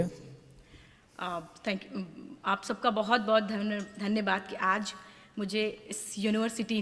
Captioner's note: speaks in foreign language